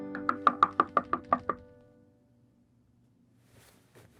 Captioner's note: hand knocking on door